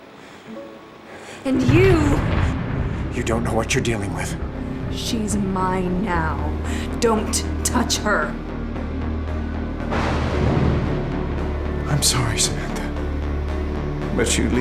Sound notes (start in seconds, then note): 1.5 thunder cracking; 6.3 ominous music; 9.8 thunder cracking